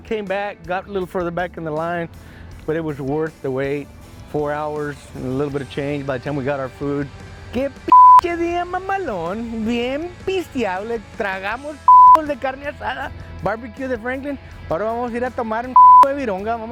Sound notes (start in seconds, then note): 6.9 speaking Spanish